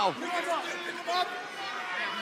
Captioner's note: crowd chatter